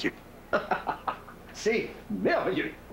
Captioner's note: Il rit